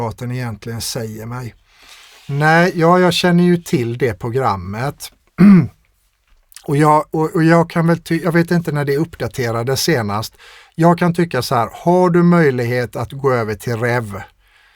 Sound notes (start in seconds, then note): 5.4 clears throat